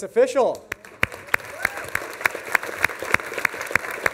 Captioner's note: applause